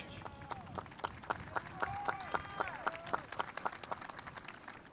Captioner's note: spectators applauding